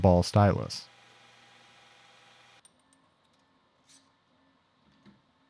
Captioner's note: machine whirring